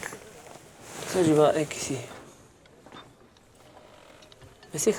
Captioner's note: French spoken audio